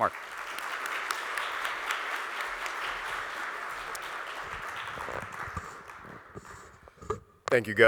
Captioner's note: audience Applauding